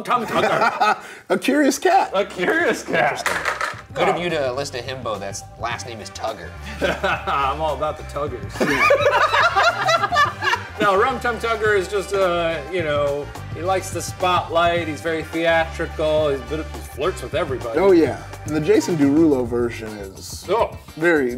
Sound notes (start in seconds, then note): 0.0 laughs; 6.6 laughs; 8.4 Ryan and Shane laughing